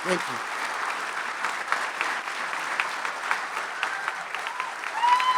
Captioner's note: audience applauding